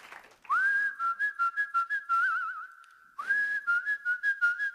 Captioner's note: cheers and applause; whistling to the tune